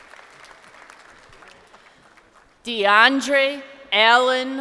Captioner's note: crowd applauding